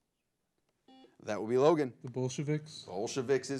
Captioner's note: buzzer blares